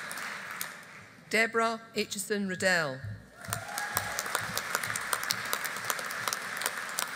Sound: audience applauding

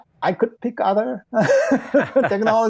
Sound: laughing

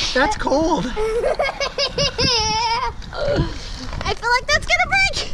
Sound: laughing

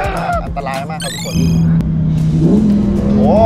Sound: engine rumbling

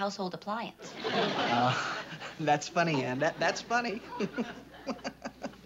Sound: chuckles

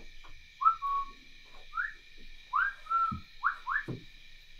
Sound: whistles

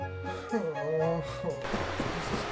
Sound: sighs

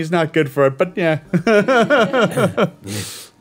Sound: group chuckling

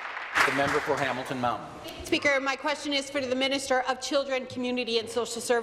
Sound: applause

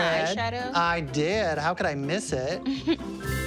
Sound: chuckles

